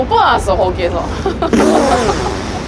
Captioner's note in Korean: 웃음